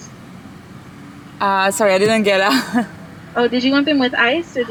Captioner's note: laugh awkwardly